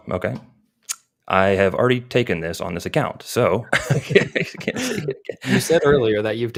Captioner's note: chuckles